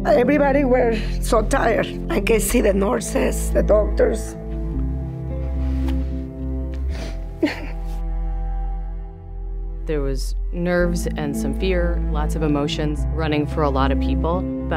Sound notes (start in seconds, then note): 7.4 crying